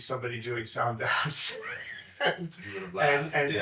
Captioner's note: laughs